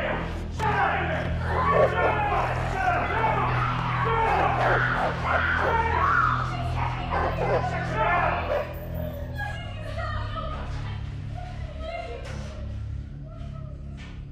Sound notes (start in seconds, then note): 2.6 men shouting; 3.4 woman screaming; 11.1 crying